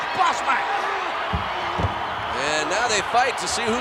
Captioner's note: applause